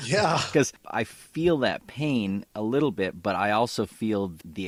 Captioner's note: laughs